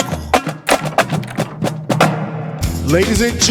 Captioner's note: drums beating; door clicks